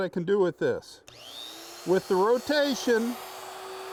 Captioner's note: grinder whirring